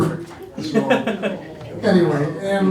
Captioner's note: laughing